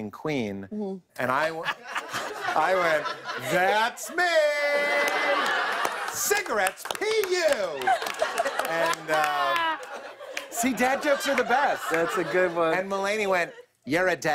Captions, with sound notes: -Mm-hmm. -And I went -- [ Laughter ] I went, "That's me!" [ Laughter and applause ] "Cigarettes? Pee-yew!" And, uh... [ Laughter ] See, dad jokes are the best. -That's a good one. -And Mulaney went, "You're a dad."